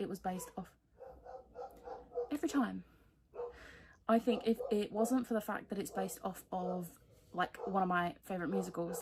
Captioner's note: dog barking